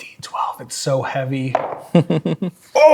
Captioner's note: dice rolling; chuckling